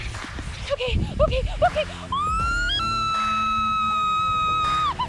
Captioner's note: screams uncontrollably